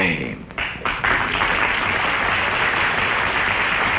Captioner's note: audience claps